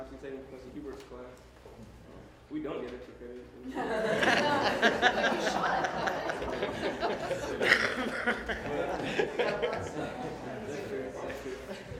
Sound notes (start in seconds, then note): 3.7 laughter